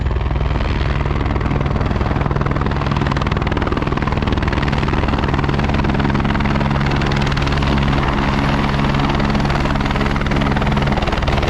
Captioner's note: helicopter landing